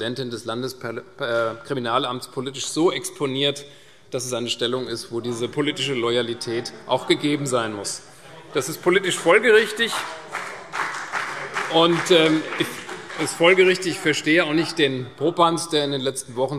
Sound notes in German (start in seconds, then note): 8.6 Beifall CDU und BÜNDNIS 90/DIE GRÜNEN